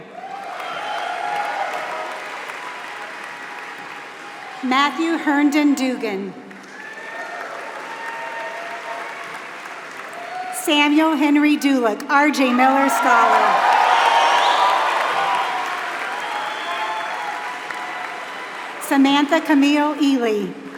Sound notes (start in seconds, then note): 0.7 applause; 12.2 applause